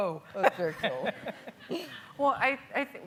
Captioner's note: laughing